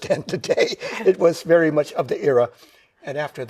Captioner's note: chuckles